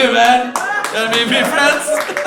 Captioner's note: audience laughs